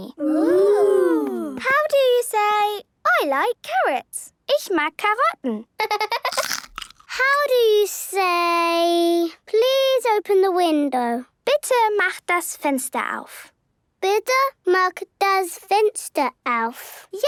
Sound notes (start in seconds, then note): 5.8 laughter